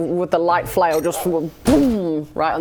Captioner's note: waboom!